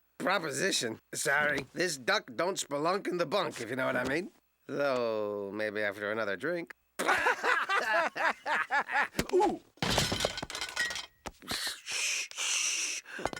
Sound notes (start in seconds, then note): 7.0 laughing